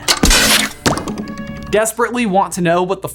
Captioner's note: toy gun firing